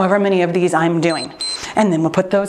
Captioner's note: timer beeps